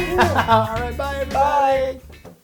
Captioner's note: laugh